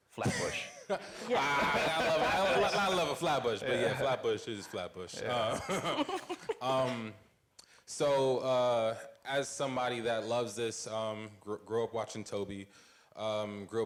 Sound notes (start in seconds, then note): 5.2 laughing; 5.6 laughs